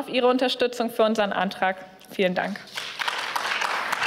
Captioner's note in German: Beifall